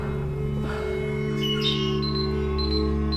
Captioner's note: songbird; beeping